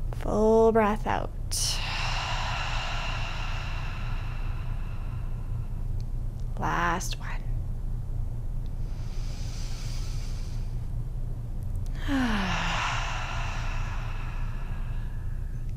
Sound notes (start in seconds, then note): 1.7 deep exhaling; 9.1 deep breathing